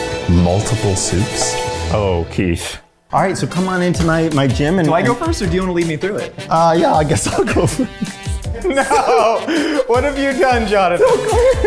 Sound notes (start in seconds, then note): 7.0 laughing